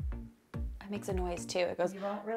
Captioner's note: mimics humming